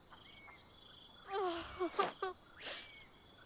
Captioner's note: sobbing